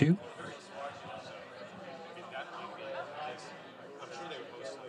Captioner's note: audience chatting